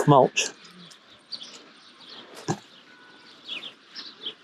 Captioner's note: birds chirping